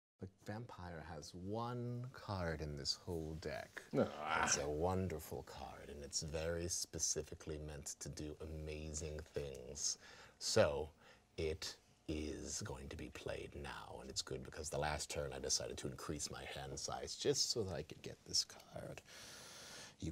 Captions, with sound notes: the vampire has one card in this whole deck. (man groaning) It's a wonderful card, and it's very specifically meant to do amazing things. So, it is going to be played now, and it's good, because the last turn I decided to increase my hand size, just so that I could get this card.